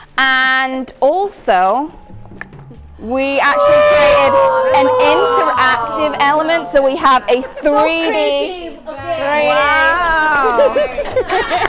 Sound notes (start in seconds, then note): 3.3 judges gasping; 11.4 laughing